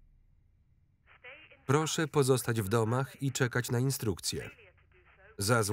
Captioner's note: intercom